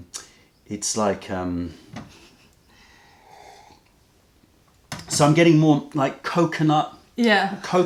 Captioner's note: sips tea